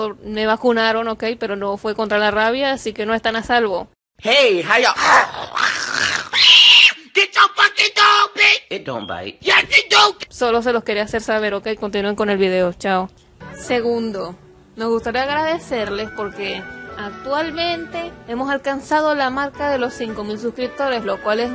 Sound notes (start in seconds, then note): 4.9 scream; 4.9 growls barks froths at the mouth a menace to society